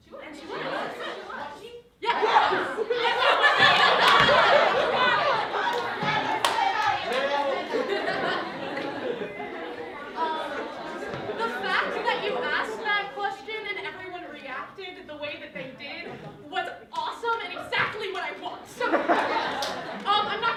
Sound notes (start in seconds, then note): 2.2 laughter